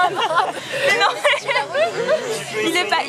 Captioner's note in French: rire